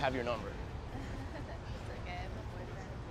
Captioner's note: woman giggles nervously